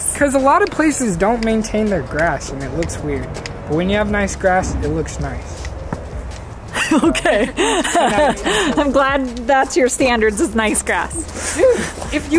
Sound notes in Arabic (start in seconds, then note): 6.7 يضحك